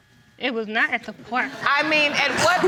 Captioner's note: audience laughing